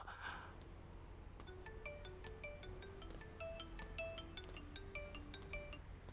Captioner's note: phone ringing